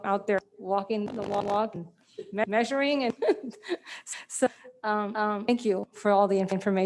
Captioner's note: she laughs